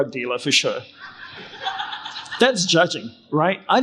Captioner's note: crowd laughing